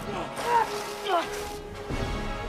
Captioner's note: grunting